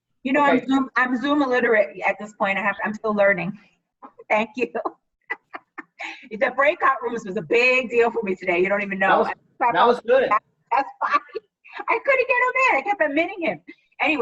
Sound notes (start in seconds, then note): 5.3 laughing